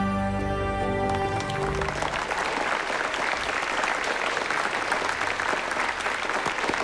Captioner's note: applause